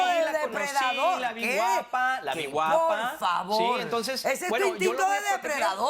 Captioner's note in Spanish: Hablan al unísono